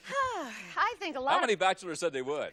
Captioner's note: Bob laughs; sighs